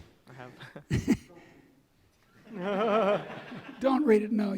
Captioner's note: laughing; audience laughing